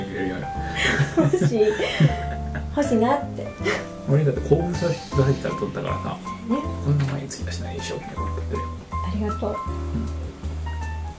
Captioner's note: laughs